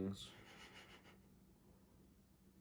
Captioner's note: laughs